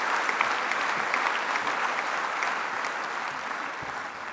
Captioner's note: applause